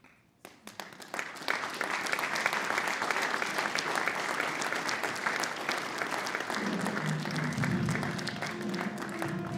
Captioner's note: applause